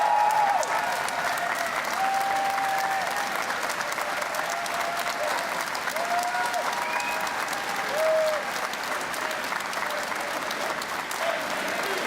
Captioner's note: cheers and Applause